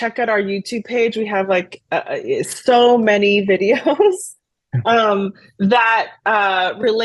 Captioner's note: laughs